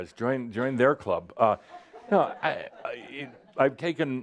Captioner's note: some chuckles